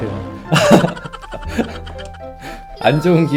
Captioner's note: laughter